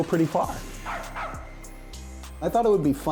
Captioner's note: dog barking